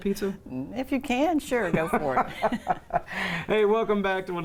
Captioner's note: laughing